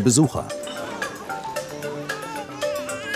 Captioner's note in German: Baby weint